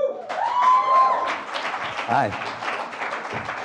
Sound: cheering and applause; applause

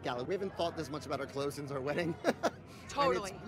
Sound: laughs

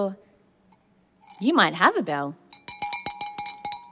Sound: bell Ringing

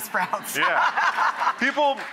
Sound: laughing

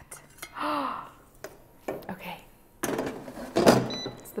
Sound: gasps

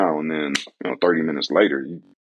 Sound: softly claps

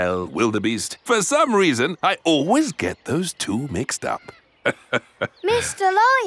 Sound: laughs

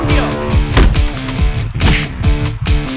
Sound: boxing punch

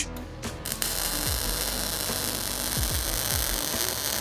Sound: sizzling

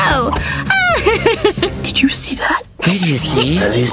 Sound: whispers

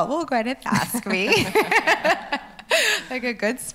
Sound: laughs loudly

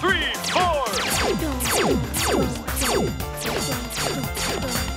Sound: Hal hums along with game music

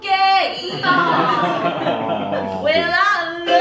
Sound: laughter

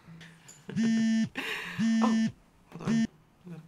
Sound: phone buzzing

